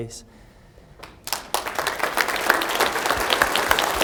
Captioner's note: applause